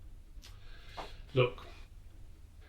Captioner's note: sighs